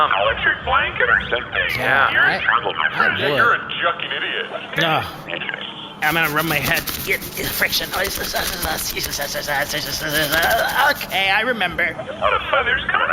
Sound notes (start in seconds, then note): 6.0 chiding; 6.0 skin rustling